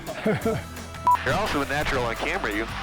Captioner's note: laughing; beeping